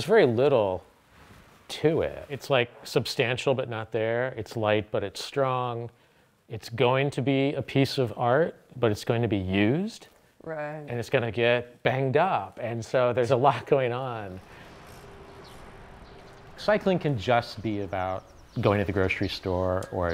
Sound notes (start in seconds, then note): 13.7 laughs; 15.3 birds chirping